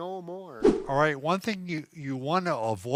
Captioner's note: air whooshes